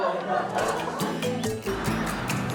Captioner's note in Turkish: Gülüşmeler